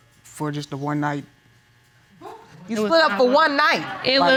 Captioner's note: woman gasps